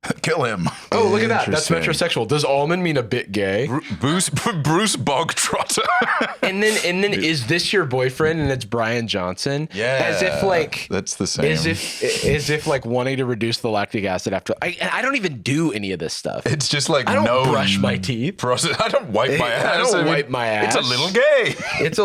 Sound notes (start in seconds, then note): 5.4 laughs